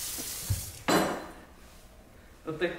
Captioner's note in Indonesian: Zzzss